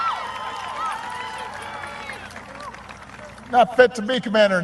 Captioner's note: applause